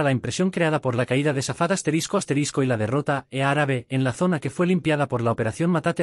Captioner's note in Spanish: árabe